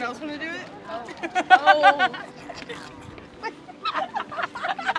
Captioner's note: students laughing